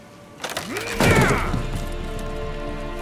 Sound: grunt

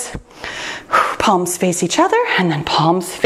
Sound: exhales sharply

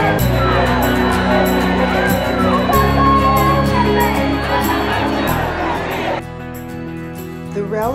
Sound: crowd noise

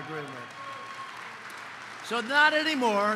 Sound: applause

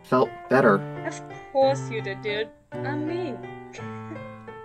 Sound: laughs

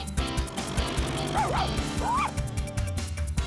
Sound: barking

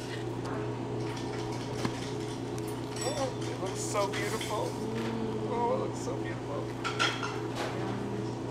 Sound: crying

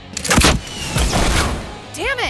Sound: explosion booming

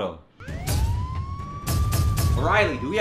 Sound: police sirens blaring

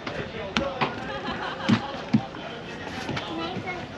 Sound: laughter

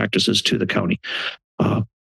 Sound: inhales

